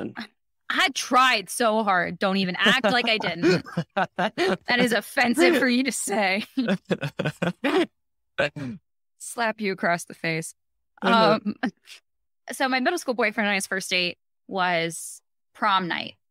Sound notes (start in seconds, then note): 6.4 laughing